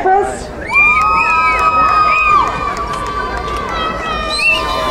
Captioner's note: crowd cheering